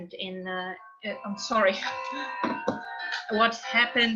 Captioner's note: phone ringing